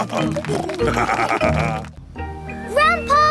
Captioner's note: snorting